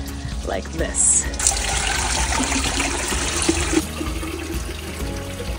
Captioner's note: water splashing